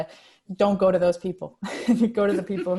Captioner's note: laughs